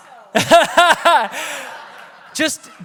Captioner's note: everyone laughs